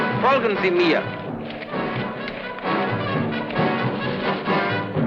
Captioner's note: speaking in a foreign language